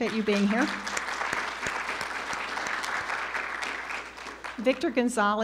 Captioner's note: audience applauding